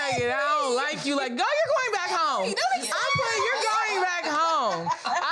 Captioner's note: all laugh